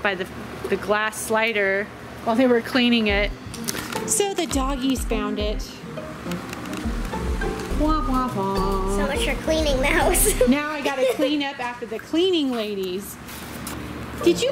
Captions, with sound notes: by the glass slider while they were cleaning it. So the doggies found it. (upbeat music) - Whomp, whomp, whomp... - So much for cleaning the house. (laughing) - Now I gotta clean up after the cleaning ladies!